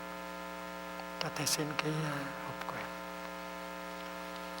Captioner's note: Vietnamese